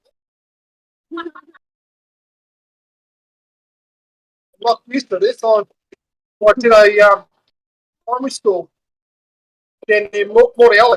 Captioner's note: laughter